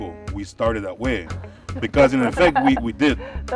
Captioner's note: laughter